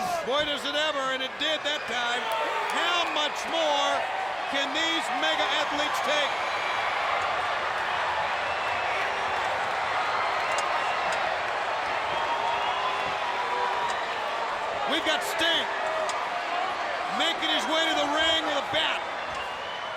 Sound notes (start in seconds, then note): 6.4 spectators shout